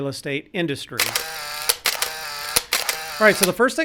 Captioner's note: camera shutter whirs